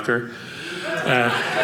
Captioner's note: audience laughing